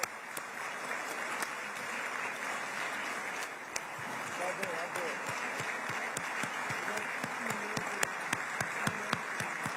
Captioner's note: applause